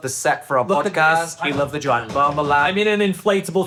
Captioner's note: palms thudding